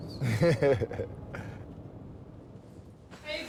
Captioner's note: laughing